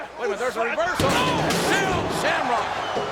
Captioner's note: steel steps thud